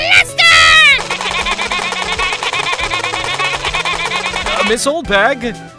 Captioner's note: Oldbag screaming, “ray gun” firing